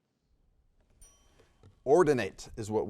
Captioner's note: bell dings